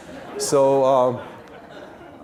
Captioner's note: audience laughing